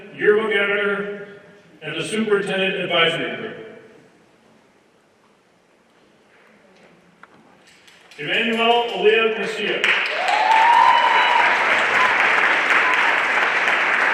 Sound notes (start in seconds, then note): 9.8 everyone applauding